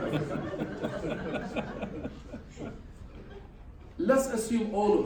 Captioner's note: laughter